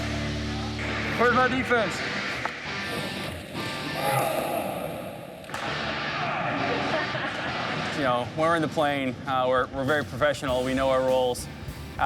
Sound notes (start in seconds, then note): 3.8 grunts; 6.3 rock music